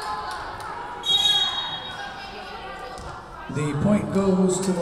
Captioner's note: Lions cheering; whistle blowing